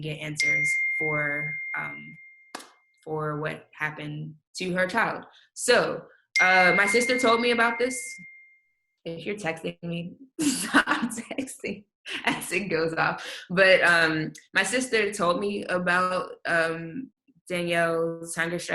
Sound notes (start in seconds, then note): 6.3 computer dings